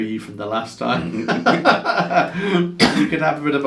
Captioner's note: both men laugh